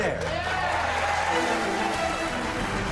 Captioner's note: cheers and applause; dramatic music